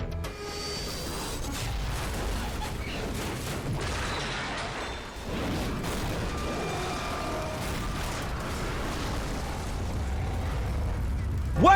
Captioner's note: plane Crashing